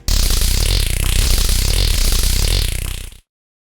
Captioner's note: sound of a taser